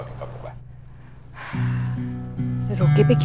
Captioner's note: Falguni sighs